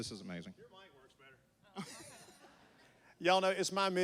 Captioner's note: laughs